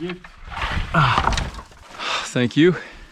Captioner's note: grunts